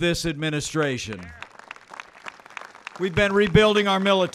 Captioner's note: applause